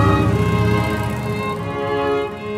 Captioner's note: engine roars; smooth violin music